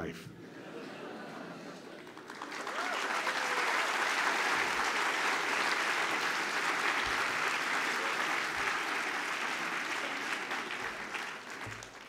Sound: laughter and applause

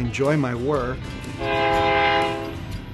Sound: train horn honks

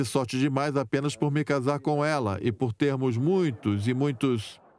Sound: audience laughs

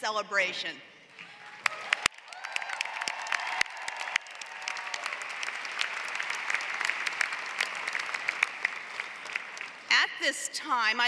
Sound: applause

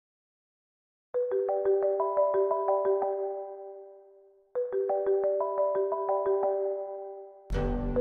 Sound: phone ringtones

